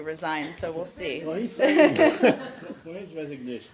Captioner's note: laughter